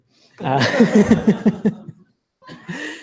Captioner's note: laughter